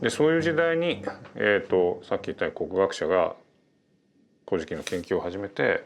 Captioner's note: speaking in Japanese